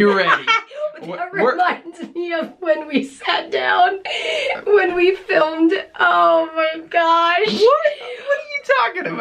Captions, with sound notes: Are you ready? [laughing] That reminds me of when we sat down...when we filmed...oh my gosh! What! What are you talking about?